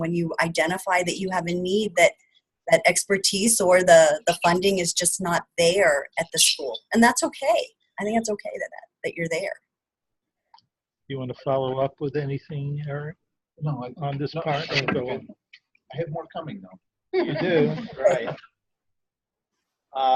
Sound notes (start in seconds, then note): 17.2 everyone laughs